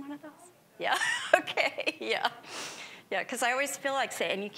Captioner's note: laughing